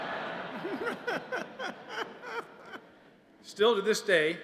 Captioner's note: laughter